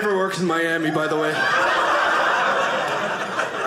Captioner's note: audience laughing